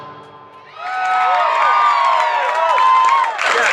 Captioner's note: audience cheering